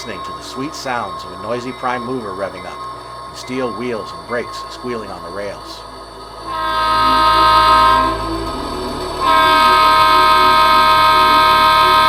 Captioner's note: horn sounds